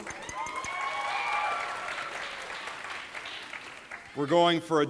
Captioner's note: audience applauding